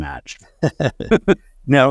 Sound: laughter

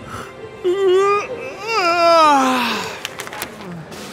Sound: soft music; man yawns

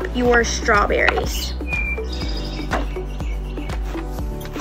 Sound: birds chirping

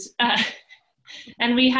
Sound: laughs

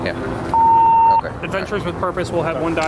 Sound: radio beeps

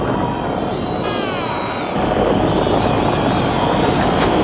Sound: crowd roaring

